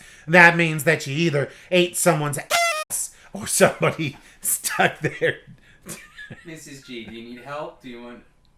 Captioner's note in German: lacht